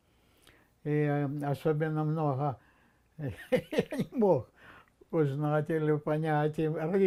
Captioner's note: laughing